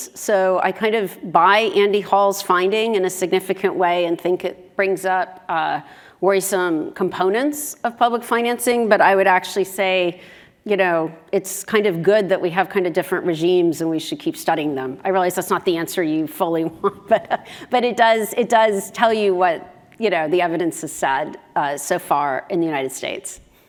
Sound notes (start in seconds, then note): 16.7 laugh